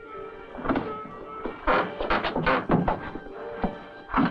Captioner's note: door clicking